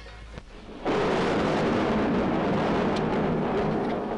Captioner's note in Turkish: Gök gürültüsü